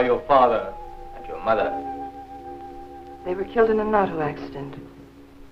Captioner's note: speaking in foreign language